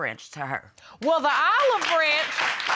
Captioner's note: applause